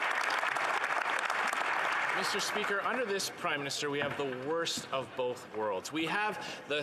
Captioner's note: some Applause